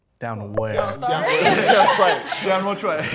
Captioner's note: contestants laughing